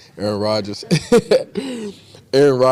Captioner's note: laughs